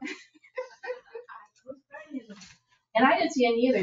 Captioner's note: laughing